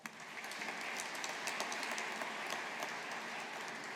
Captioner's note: audience applauding